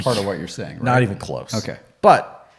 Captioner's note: scoffs